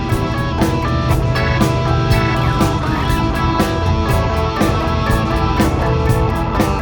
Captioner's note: engine roars